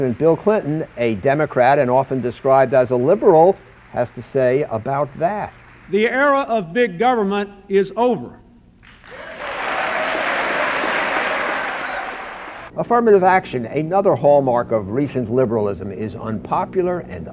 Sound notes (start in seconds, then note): 8.8 applause